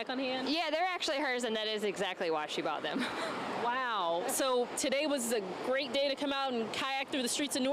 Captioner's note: laughter